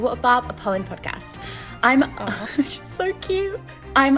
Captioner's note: cat meowing